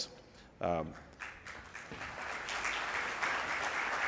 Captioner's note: audience applauds